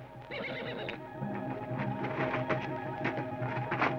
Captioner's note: horse whinnies